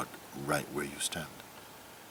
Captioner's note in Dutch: none